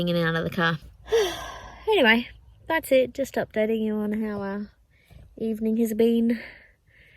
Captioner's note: sighs tiredly